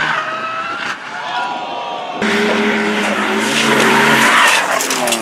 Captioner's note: tires Squeal, High Pitch Engine noises